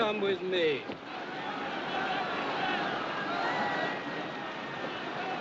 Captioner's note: Gritos, Clamors